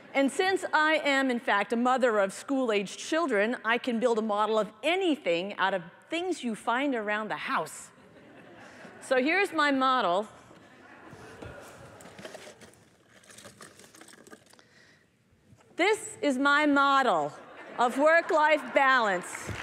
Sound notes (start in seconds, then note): 10.6 laughter